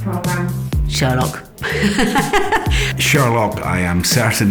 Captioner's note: laughs